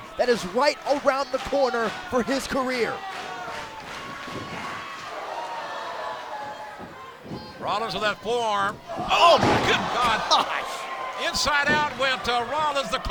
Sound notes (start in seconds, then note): 3.8 crowd cheering